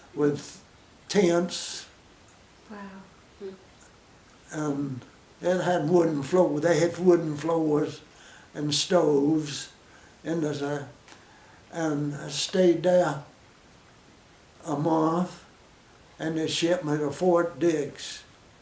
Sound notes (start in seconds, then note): 13.4 pause; 18.4 pause